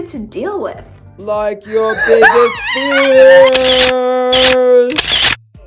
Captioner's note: deep, scary voice in background; sound of camera